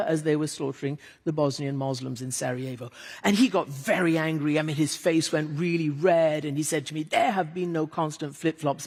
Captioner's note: none